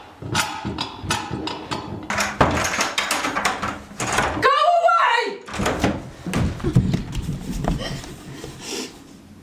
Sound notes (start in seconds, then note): 2.1 lock clicking